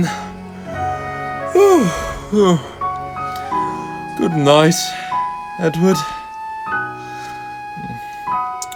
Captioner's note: yawn; sleeping noises